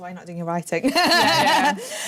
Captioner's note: laughter